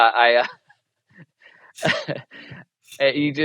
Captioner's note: chuckles